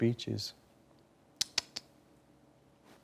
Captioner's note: clicking tongue